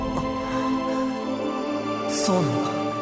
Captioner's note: bated breath